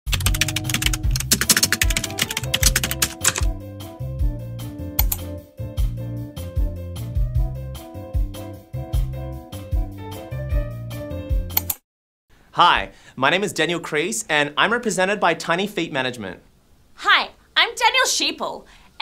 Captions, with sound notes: (keyboard clacking) (ambient music) (mouse clicking) (ambient music) (mouse clicking) - Hi, my name is Daniel Crease and I'm represented by Tiny Feet Management. - Hi, I'm Danielle Sheeple